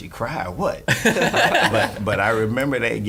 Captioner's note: laughing